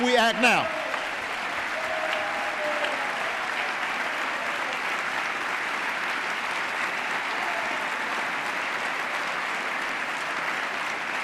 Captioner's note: applause